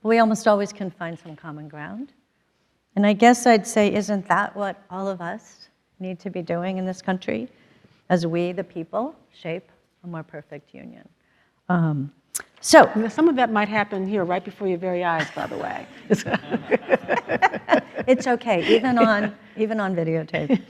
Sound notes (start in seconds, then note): 15.2 laughs; 15.2 everyone laughs; 20.3 laughs